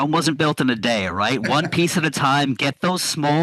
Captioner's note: laughing